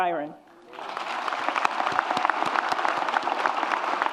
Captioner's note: audience applauds